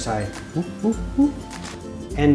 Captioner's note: monkey noise